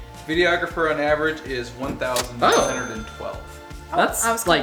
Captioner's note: male Voice